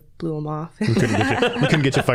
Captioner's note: all laughing